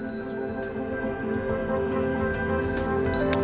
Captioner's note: bell chiming; dramatic music